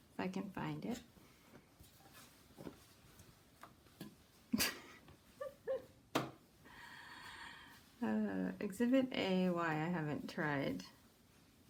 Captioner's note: laughs